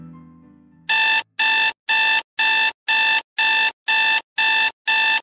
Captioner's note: alarm clock beeps